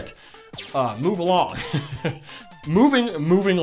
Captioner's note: awkward laugh